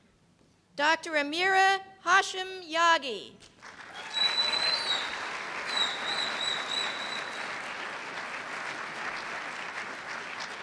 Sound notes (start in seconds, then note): 3.6 cheers and applause